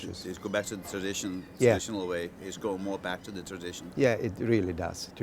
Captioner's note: chef speaking